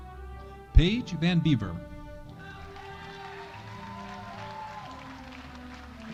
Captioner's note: audience cheering